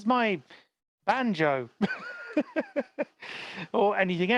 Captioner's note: laughs